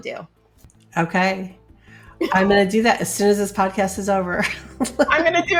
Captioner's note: laughs